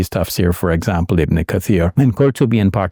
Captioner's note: speaks in foreign language